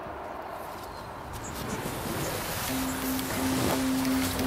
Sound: kayak sliding on grass

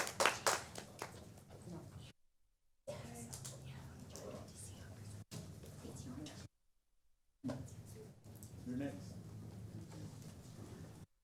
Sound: applause

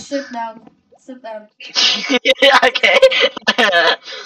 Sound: giggle or laugh idfk

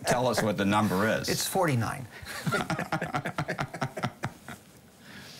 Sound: both laughing

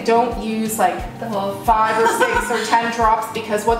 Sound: laughter

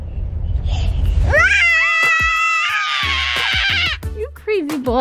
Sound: both screaming

